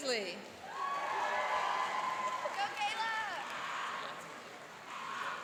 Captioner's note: cheering and applauding